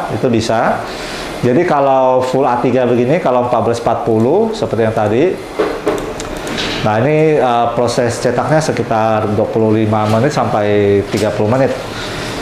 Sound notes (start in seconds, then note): 5.4 typing sound